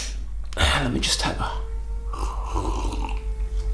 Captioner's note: sips coffee